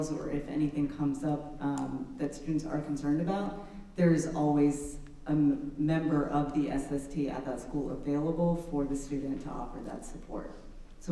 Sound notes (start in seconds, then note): none